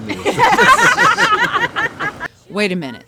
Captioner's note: all laughing